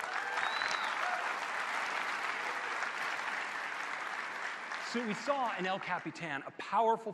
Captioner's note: applause